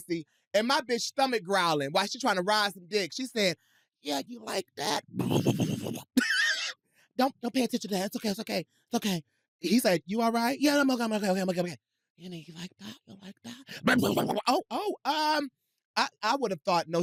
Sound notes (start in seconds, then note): 5.0 growls, laughs; 13.8 growls